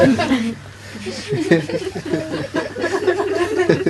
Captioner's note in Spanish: risas